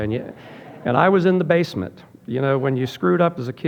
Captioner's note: audience laughing